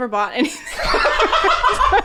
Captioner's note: laughing